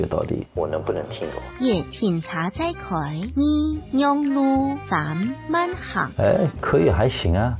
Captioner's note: speaking KeJia language